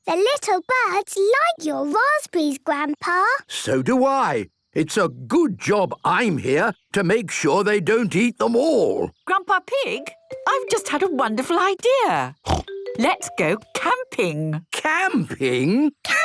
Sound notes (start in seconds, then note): 12.4 snort